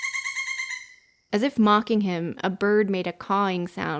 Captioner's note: bird call that sounds like laughter